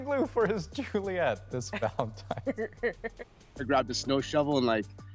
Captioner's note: laughter